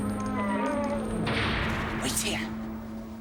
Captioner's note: squeaking